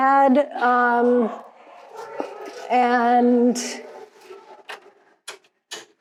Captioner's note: voices echoing in hall